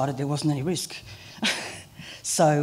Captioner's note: laughter